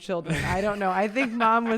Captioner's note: laughs